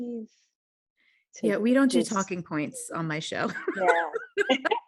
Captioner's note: laughs